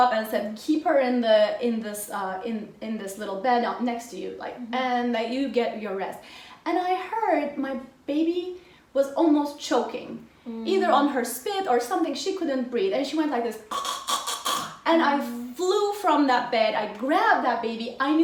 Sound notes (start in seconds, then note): 13.7 choking